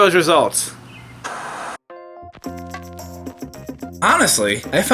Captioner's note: TV static